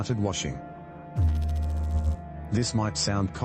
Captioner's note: electrical noise